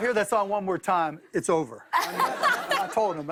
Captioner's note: laughter